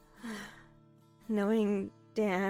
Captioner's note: sighs